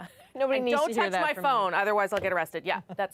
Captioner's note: laughter